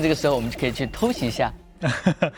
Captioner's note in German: lacht